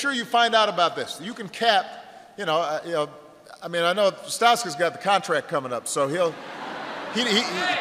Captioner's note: laughter